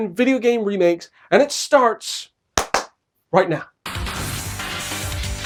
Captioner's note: clap clap